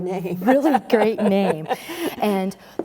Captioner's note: laughs